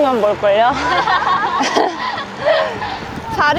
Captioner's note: laughter